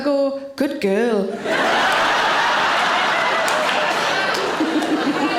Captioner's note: audience laughing